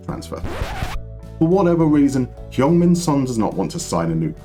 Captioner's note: record scratch